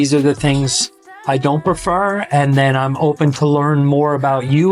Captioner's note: Latin